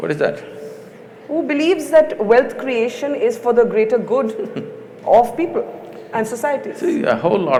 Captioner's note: Sadhguru laughs